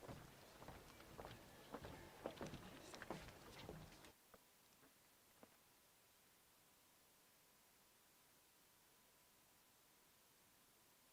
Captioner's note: cheers and applause